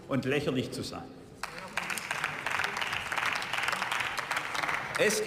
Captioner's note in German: Beifall